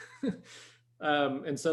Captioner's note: chuckles